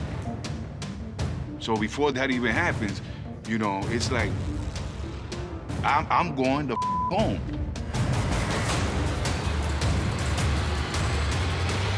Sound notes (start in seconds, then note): 6.7 beep; 8.0 suspenseful music